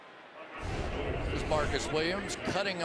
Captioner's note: swoosh